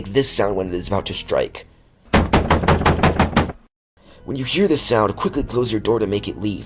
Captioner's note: banging